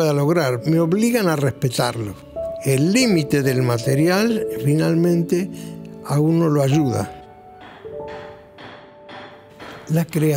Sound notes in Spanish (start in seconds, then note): 7.1 música piano; 7.4 golpe martillo de lejos